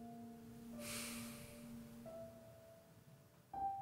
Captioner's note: Quinn sighs